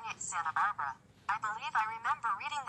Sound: electronic voice

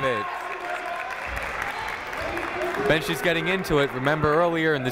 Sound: clapping

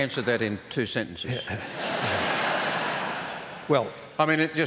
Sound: laughter

